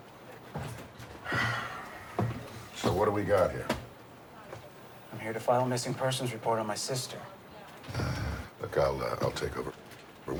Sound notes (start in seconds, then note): 1.2 Tom sighs